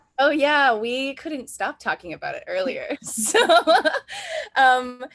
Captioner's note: laughs